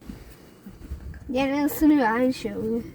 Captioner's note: none